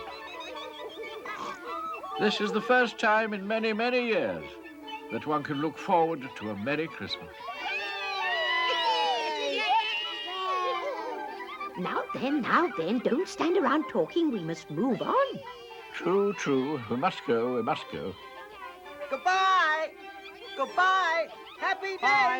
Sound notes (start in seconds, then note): 7.3 all cheering